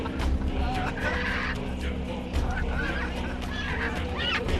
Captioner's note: squawking